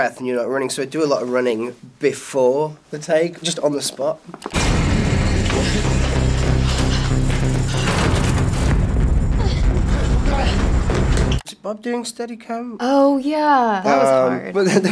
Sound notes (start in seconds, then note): 6.4 Nancy and Jonathan panting